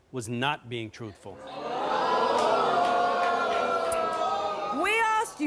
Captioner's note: audience groans